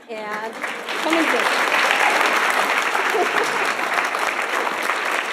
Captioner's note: audience applauding